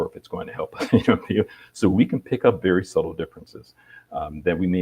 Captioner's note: chuckle